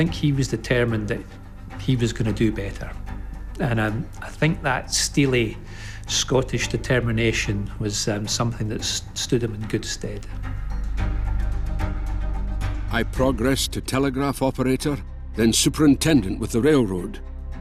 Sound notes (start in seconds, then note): 13.4 Voz en off